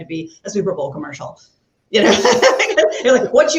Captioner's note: laughs